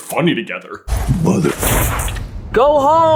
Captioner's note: thwap!